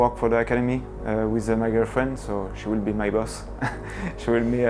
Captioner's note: laughs